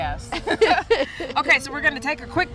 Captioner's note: laughs